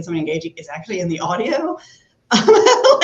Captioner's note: laughs